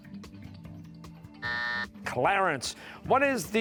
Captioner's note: buzzer